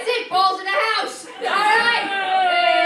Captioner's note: sports screaming